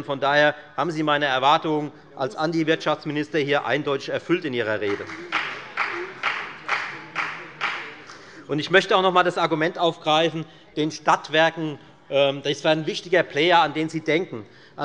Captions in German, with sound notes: Von daher haben Sie in Ihrer Rede meine Erwartungen, dass Sie ein Anti-Wirtschaftsminister sind, eindeutig erfüllt. (Beifall bei der FDP) Ich möchte auch das Argument im Zusammenhang mit den Stadtwerken aufgreifen. Das ist ein wichtiger Player, an den Sie denken müssen.